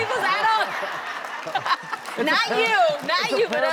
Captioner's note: audience laughing